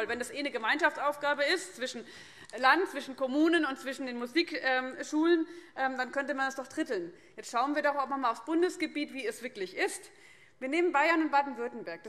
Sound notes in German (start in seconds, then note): none